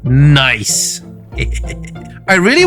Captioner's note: chuckles